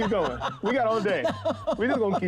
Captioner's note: Jackie cracking up